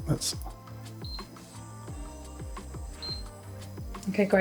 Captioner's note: cooktop beeping